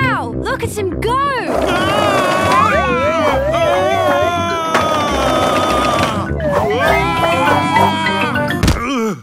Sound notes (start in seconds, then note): 2.1 shouting